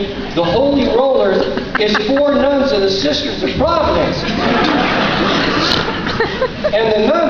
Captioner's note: laughter